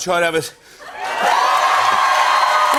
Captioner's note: cheers and applause